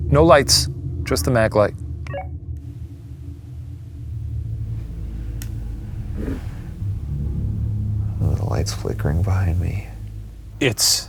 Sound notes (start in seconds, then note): 2.2 walkie talkie beeps; 4.8 slow tense music